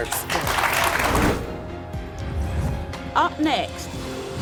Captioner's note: applause